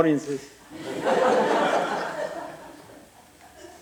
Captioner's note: laughter